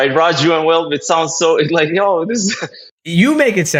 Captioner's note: laugh